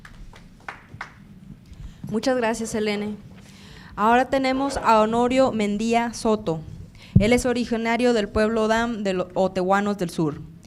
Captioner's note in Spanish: Aplausos